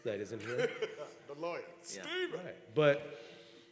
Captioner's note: laugh